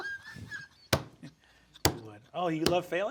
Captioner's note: Sam laughing; palm thumping